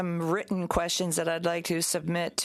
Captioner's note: speaking French